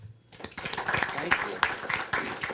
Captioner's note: applause